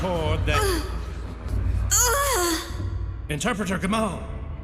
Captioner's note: Gamall lets out sighs of pain